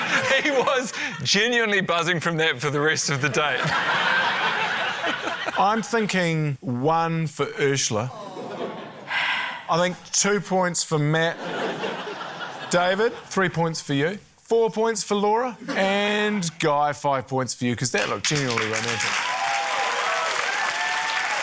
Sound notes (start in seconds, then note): 9.0 sighs; 11.3 laughter